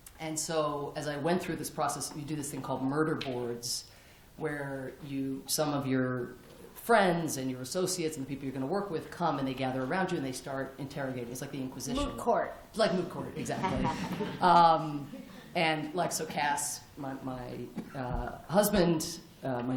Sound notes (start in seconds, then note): 13.4 laughter